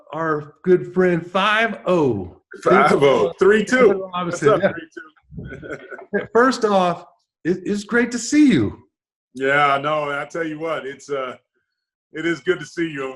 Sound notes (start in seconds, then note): 5.7 laughs